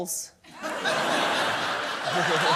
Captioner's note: laughter